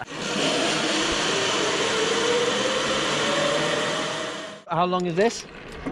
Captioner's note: whirring